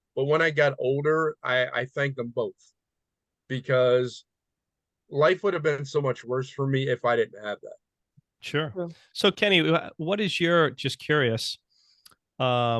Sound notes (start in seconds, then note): none